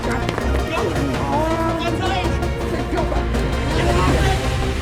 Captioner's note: grunting; indistinct chatter